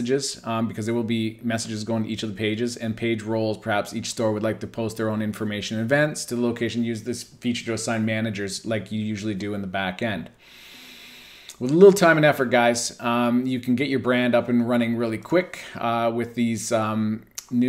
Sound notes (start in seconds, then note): 10.4 inhales sharply